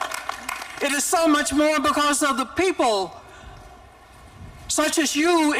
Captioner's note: applause